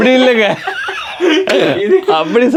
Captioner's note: group laughs